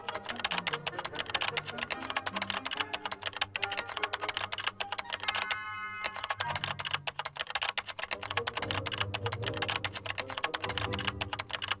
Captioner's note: keyboard clicking